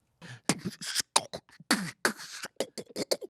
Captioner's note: beatboxing